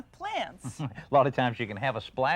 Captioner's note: laughs